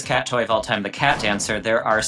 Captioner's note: text whooshing